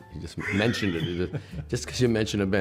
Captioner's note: laughter